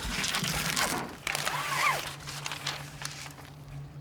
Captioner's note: whirring sound